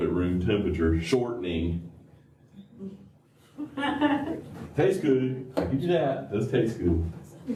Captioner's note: laughter